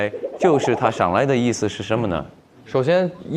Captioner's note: accent slips